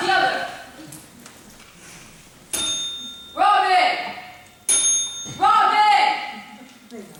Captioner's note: bell rings